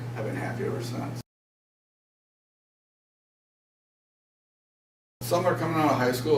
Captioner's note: silence